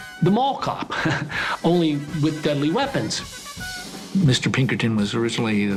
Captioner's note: chuckles